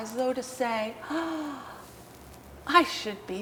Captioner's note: gasps